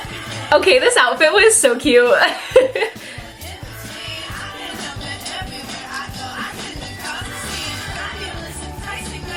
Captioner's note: giggles